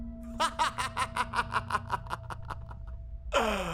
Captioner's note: laughter